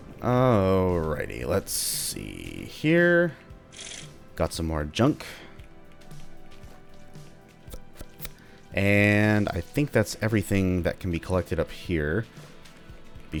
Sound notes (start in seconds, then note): 7.6 thinking mouth pop noises